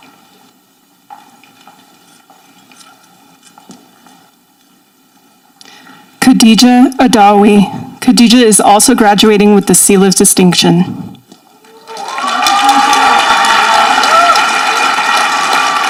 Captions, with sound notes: - Kadija Adawi. A Kadija is also graduating with the Seal of distinction. (audience applauding)